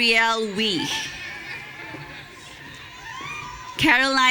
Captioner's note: audience cheering